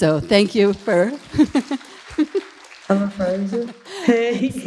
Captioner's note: audience applauding